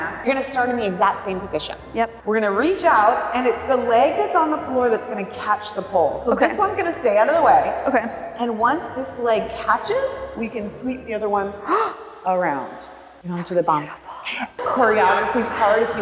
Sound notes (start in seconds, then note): 11.6 gasping